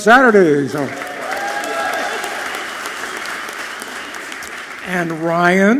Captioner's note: audience clapping and cheering loudly